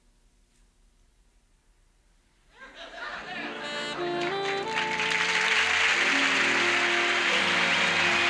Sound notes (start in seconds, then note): 2.6 audience laughs; 5.6 audience applauds